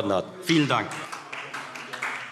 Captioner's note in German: Beifall